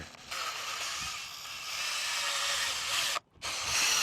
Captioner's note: drill whirring